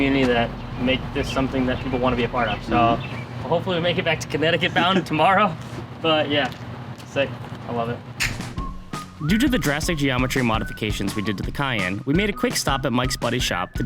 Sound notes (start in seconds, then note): 8.2 hands slapping